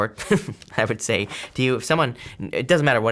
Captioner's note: chuckling